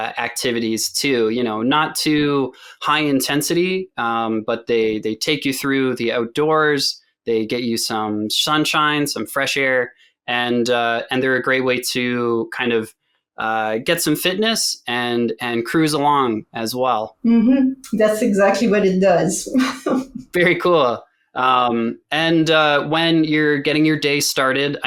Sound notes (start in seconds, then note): 19.4 laughs